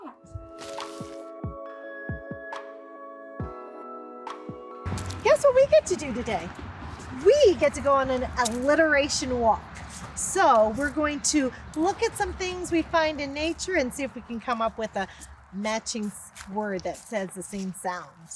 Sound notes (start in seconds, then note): 0.0 soft rhythmic music; 6.8 footsteps crunch leaves